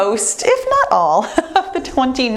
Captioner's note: laughs